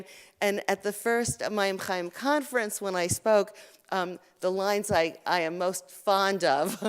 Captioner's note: Hebrew